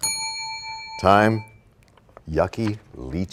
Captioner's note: bell rings, time expires